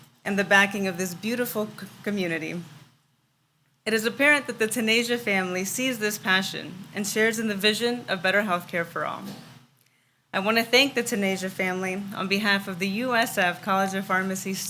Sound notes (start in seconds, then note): none